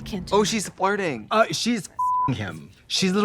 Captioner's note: beep